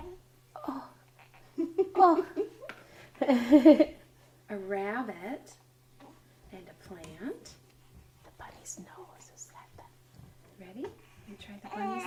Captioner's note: laughter; whispered